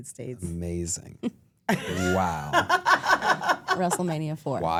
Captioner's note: laughs